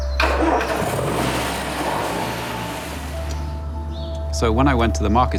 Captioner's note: starting engine, revving